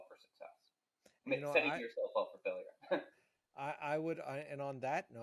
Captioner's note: laughing